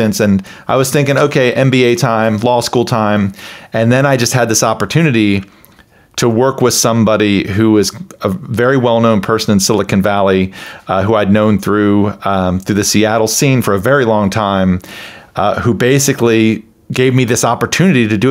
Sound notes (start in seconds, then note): none